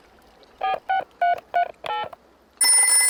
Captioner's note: dialing